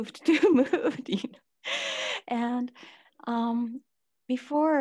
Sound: all laughing

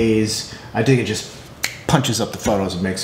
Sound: snaps

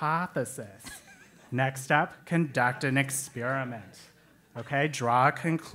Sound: laugh

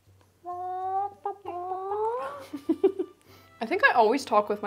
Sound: both imitate chicken noises

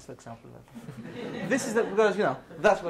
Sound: students laughs

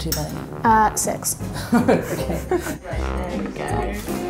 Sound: laughs

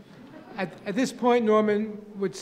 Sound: audience laughing

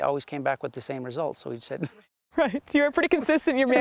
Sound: laughter

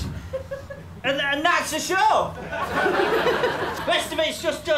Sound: laughter

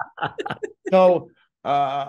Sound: laughter

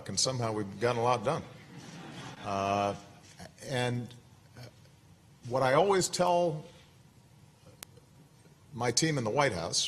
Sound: laughter

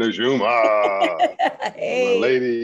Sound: laughs

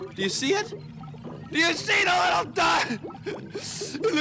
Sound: voice breaking

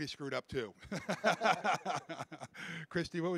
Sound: laughing

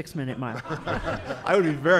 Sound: laughing

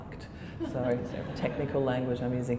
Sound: laughter

